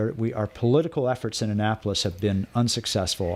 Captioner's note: Hablando ingl\s